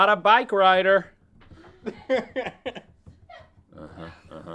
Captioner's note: laughing